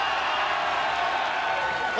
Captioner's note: cheers & applause